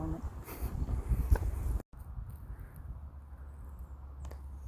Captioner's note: leaves rustling